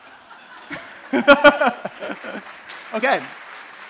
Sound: laughs

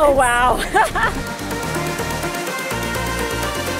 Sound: laughs; upbeat music

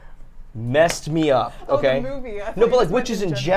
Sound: laughs

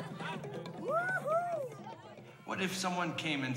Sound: cheering

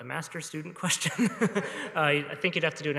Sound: laughter

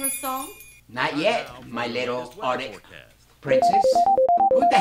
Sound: phone rings

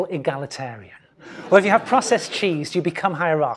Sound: laugh

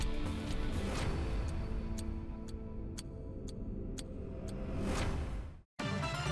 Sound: clock ticking; upbeat electronic music

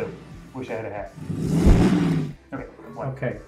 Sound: engine revving

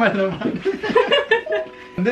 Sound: laughing

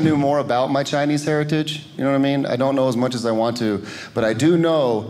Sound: none

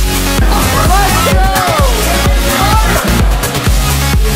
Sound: party noises

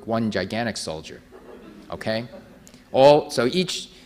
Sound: audience laughing

